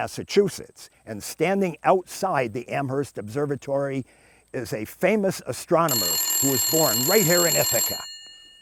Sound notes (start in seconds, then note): 5.8 phone ringing